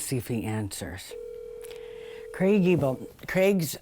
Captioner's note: phone ringing